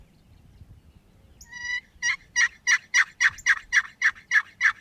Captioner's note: turkey calling